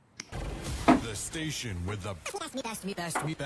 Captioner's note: radio Announcer; record scratching